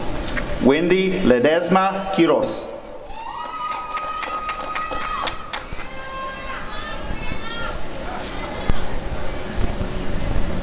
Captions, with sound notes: Wendy Ledezma-Quiroz [applause and cheering]